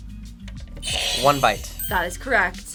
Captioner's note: buzzer rings